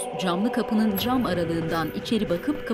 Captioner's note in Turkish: Kapı açılma sesi